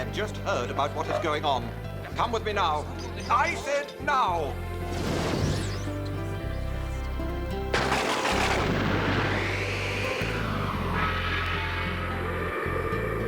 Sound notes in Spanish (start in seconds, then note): 4.8 zumbido; 7.7 la caída de rayos; 7.8 trueno aplaude; 9.7 zumbido